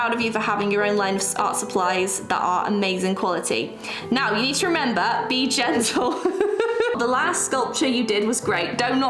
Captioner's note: laughs